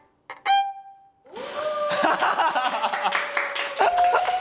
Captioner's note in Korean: 박수 갈채